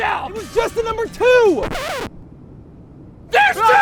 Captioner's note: record scratch